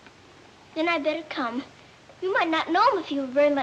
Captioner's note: none